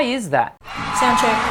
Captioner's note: cheering